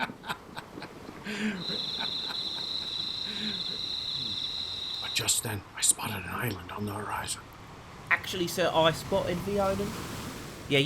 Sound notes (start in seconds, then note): 0.0 odysseus laughing; 1.3 crickets chirping